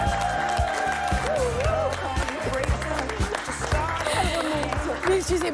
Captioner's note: cheers